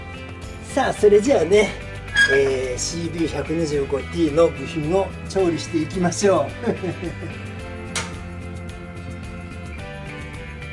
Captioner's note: laughs